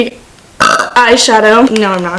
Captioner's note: burp